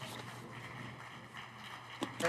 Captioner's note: applause